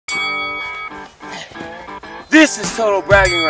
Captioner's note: bell